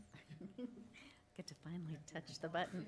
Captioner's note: laughing